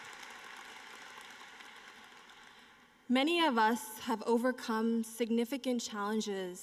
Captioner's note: applause